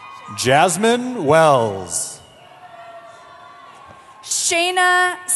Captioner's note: cheering